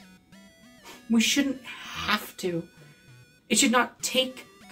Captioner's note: snorts dismissively